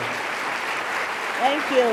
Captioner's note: audience applauding